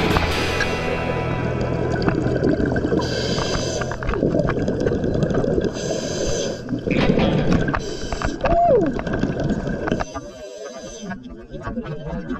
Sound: breathing Sounds

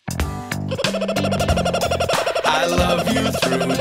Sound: bird singing

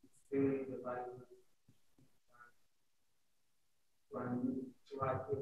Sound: student speaking faintly

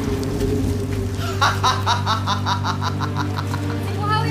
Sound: laughs

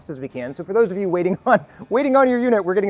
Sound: chuckles

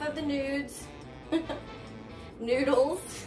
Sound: laughs

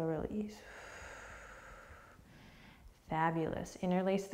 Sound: deep breath

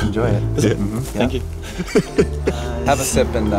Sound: laughing

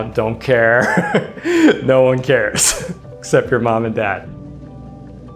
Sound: chuckles

